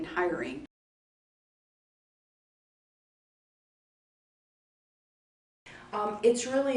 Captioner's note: silence